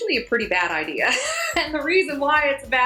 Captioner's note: laughs